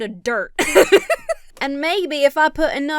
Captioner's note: laughs